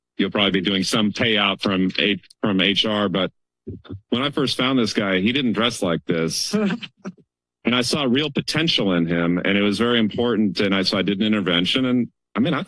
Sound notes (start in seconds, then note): 6.5 laughter